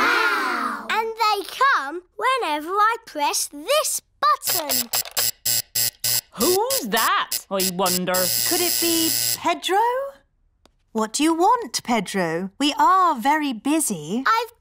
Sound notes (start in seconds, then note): 4.4 alarm buzzes